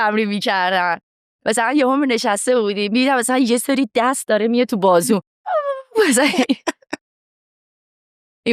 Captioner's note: laughs